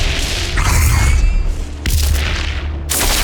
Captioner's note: energy crackling; thunder rumbling